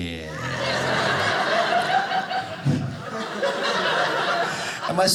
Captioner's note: speaking Chinese; audience laughing